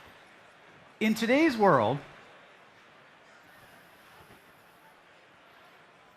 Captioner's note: applause